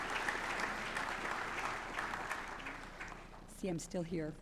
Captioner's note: applause